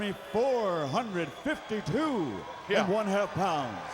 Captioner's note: crowd clamoring